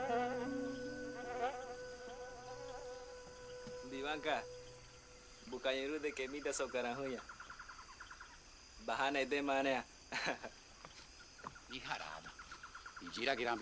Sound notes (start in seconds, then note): 9.5 laughs